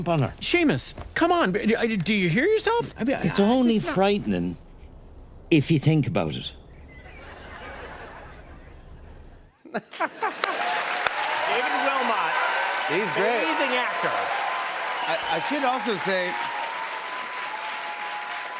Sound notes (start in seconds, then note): 7.0 laughter; 10.0 cheers and applause